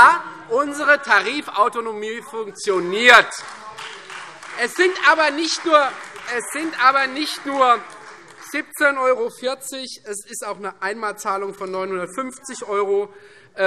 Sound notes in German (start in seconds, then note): 2.9 Beifall Freie Demokraten - Zurufe DIE LINKE